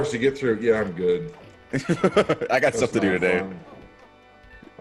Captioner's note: laugh